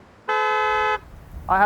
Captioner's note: horn